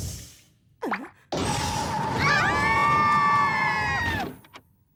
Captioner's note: shrieks